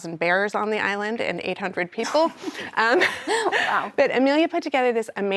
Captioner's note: laughs